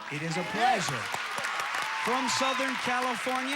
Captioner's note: audience applauding